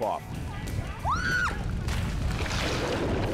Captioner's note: scream, splash